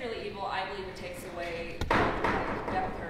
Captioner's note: banging